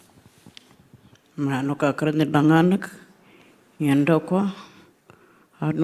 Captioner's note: speaking Anmatyerr